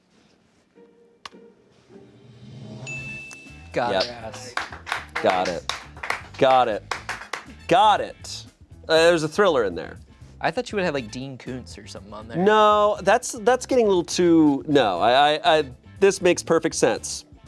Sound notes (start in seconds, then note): 2.4 drum roll hisses; 2.8 bell chimes; 3.9 crew applauds